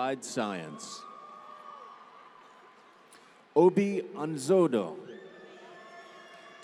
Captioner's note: applause